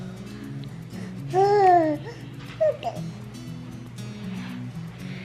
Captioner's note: baby coos